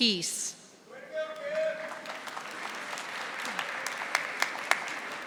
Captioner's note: audience applauding